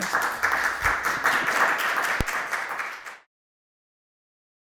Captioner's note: audience applauds